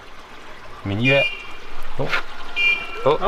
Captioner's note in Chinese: 嘟嘟